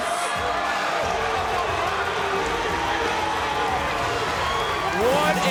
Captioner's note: audience cheering; upbeat music continues